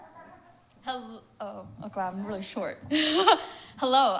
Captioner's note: audience laughs; laughs